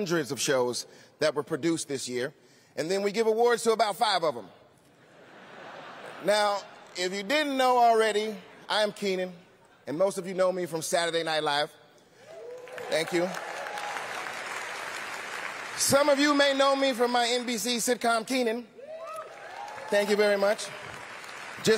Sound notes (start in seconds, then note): 4.9 laughter; 12.2 cheering; 12.2 applause; 18.8 cheering; 18.9 applause